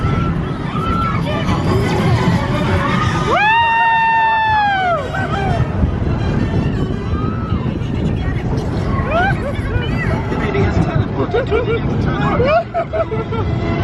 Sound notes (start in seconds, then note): 1.9 energetic music; 1.9 screaming; 8.7 laughing; 8.7 speaker chattering